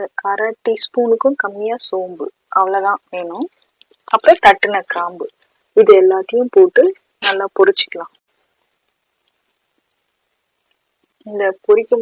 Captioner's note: crushed